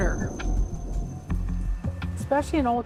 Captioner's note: thunder rumbling